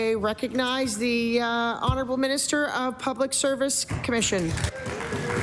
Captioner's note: applause